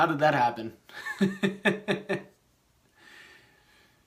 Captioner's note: laughs